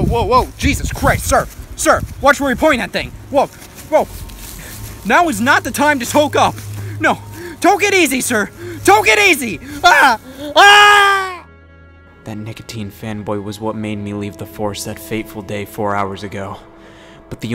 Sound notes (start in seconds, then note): 10.4 screaming